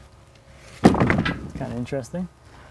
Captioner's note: wood clunking